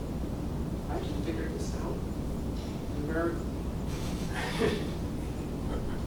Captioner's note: laughs